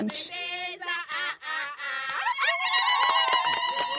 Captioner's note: cheering